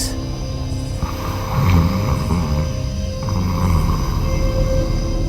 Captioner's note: woman snoring